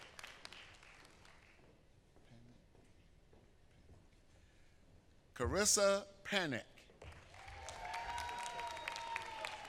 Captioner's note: applause